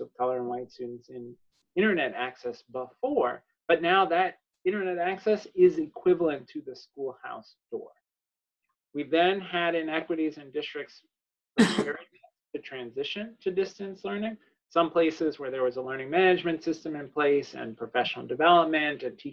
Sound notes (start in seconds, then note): 11.7 audio distorts